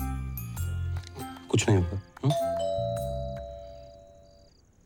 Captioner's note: door bell rings